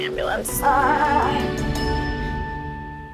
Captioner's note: moaning